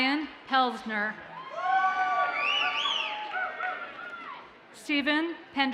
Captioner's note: audience cheers and applauds